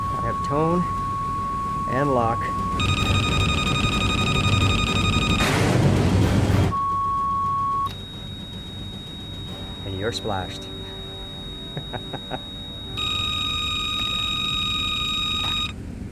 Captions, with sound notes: I have tone and lock. (radio beeping) (tense music) (aircraft whirring) (radio beeps) And you're splashed. (Frank chuckles) (radio beeps)